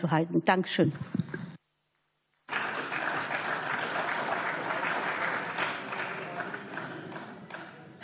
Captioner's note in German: Beifall